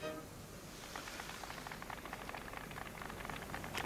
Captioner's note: applause on the radio